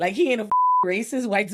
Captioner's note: beep